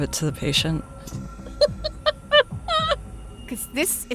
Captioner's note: laughs